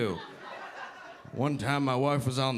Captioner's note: audience laughing